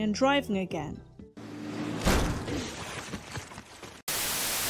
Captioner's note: crash noise